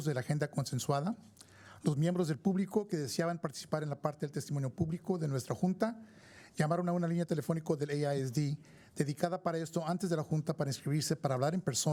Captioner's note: speaking spanish